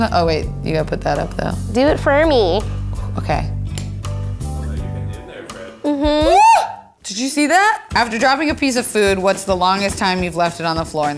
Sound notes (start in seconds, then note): 6.2 screaming